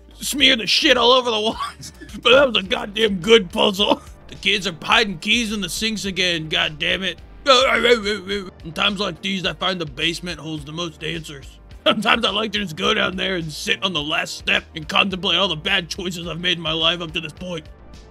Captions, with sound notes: SMEAR THE SHIT ALL OVER THE WALLS BUT THAT WAS A GODDAMN GOOD PUZZLE THE KIDS ARE HIDING KEYS IN THE SINKS AGAIN GOD DAMMIT *Bim Allen grunt* IN TIMES LIKE THESE I FIND THE BASEMENT HOLDS THE MOST ANSWERS SOMETIMES I LIKE TO JUST GO DOWN THERE AND SIT ON THE LAST STEP AND CONTEMPLATE ALL THE BAD CHOISES I'VE MADE IN MY LIFE UP TO THIS POINT